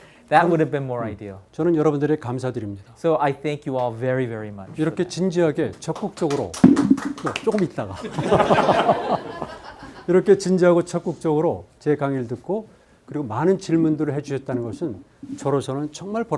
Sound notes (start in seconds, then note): 1.6 speaking in Korean; 5.0 speaking in Korean; 5.9 students clapping; 7.4 speaking in Korean; 7.9 students laughing; 10.3 speaking in Korean